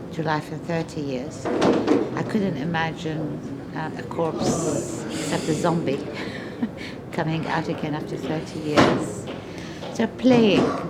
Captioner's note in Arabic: تضحك